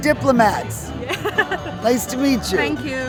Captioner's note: chuckling